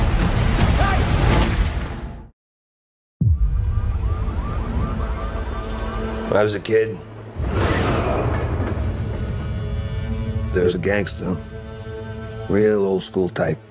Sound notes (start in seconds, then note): 0.7 gunshot fires; 3.2 alarm wails distantly; 4.4 ominous music plays